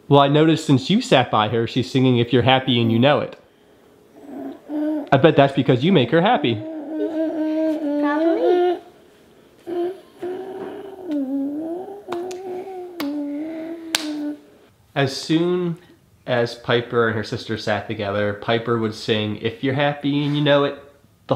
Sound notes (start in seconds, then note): 9.6 humming; 9.6 hand tapping